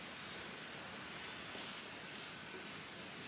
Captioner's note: light brushing noises